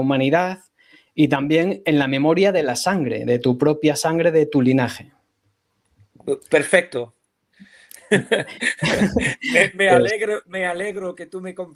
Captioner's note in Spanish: risas